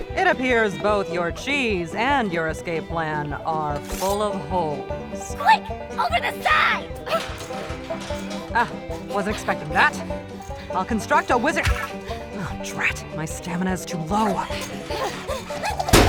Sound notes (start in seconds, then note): 6.0 scampering